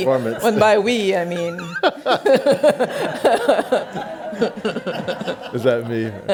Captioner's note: laughs